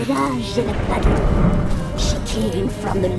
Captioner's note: thunderclap